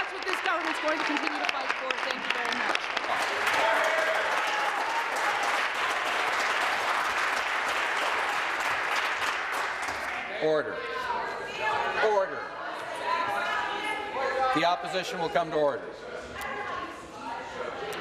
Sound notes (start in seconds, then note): 5.9 applause